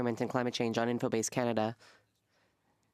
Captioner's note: speaking French